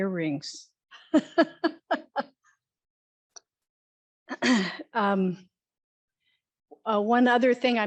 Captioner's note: laughs